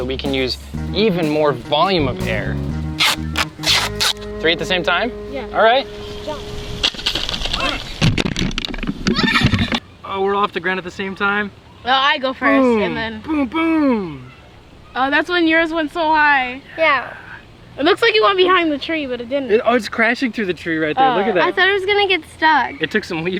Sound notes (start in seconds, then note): 7.8 yells